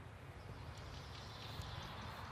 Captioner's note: birds chirping